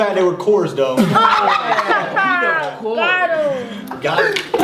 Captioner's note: kids Laughing